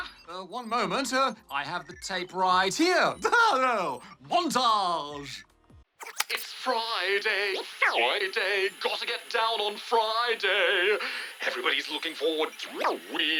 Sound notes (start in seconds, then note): 3.2 chuckles